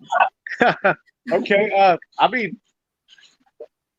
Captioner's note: laughs